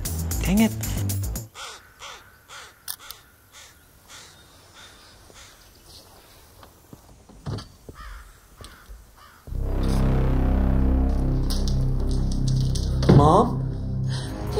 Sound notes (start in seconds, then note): 1.5 crow cawing; 2.8 camera clicks; 7.3 door opens